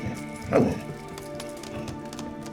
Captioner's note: barks